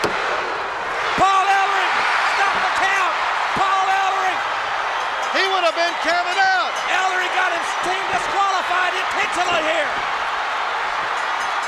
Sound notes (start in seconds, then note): 0.0 hand slaps; 4.4 crowd shout; 6.4 bell rings; 9.2 crowd shout; 11.0 bell rings